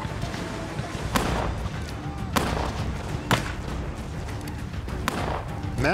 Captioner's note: gunfire